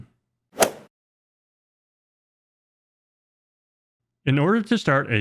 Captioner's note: golf swing sound effect